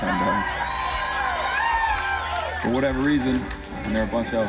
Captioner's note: crowd cheering